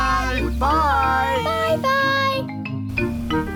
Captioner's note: none